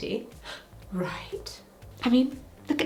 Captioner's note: gasp